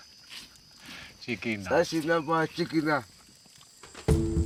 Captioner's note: speaking local language